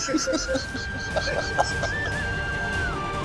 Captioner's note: laughing